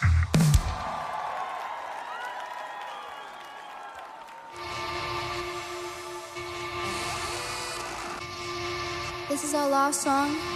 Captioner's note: crowd Cheering